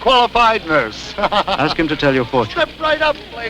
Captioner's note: laughing